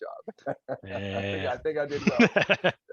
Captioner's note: laughs